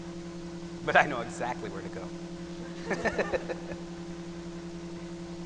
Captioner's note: laughter